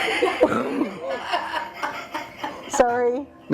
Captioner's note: both laughing